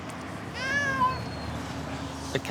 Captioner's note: cats miaow